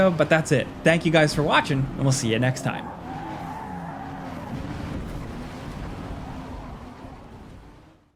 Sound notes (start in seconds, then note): 3.4 cars revving